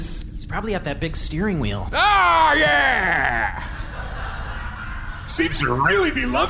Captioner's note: shouting; laughing